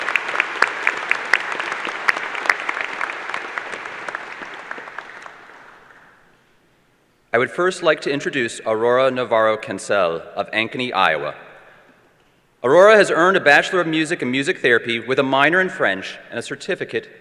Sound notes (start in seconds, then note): 2.3 applause